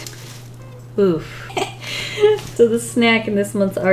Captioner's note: laughs